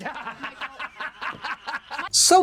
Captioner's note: laughing